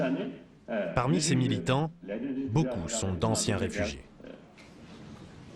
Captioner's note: tibetan spoken audio